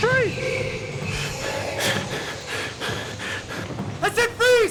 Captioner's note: panting